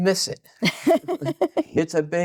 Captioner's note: laughing